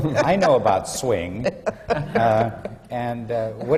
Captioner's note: laughter